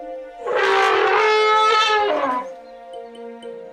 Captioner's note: trumpeting